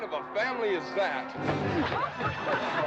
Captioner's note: smack